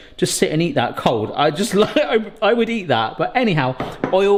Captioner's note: laughs